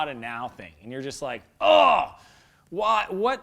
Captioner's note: groans